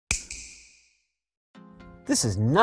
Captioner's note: snap